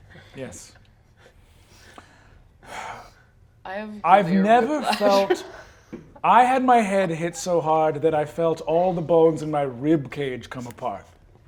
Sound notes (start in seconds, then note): 4.1 sighs